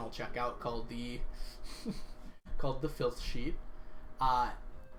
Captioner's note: laughs